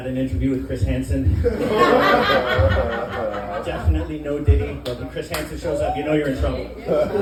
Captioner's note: laughter